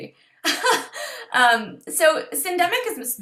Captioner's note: laughter